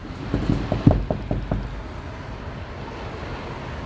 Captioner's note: door knocking